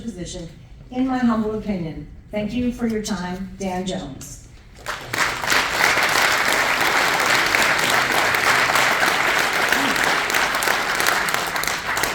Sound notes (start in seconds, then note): 4.8 applause